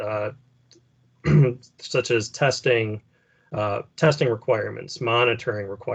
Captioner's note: clears throat